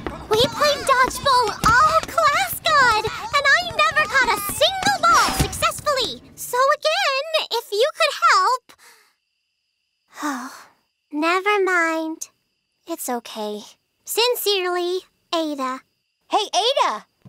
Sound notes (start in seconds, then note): 10.0 sighs